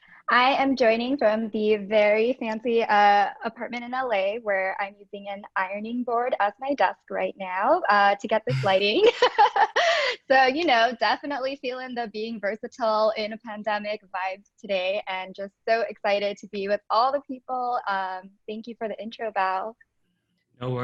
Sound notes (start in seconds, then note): 8.5 laughing